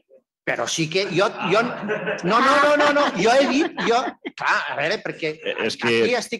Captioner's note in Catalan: S'escolta riure de la taula de ponents